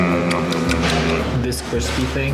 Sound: chewing noises

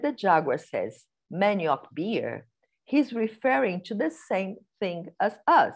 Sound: non-english speech

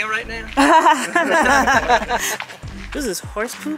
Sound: laughs

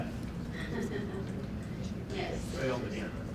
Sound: laughs

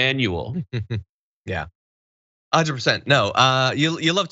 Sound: laugh

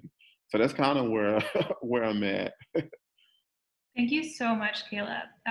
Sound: chuckles

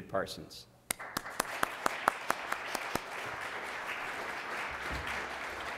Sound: applause

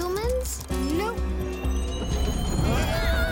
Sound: chimes; all shouting

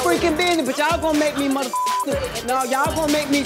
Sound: beep

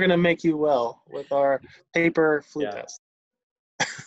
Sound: laughs

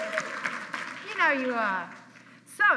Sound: applause

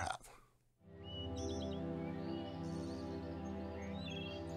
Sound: bird sounds

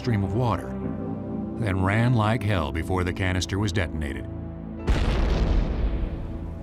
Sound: explosion

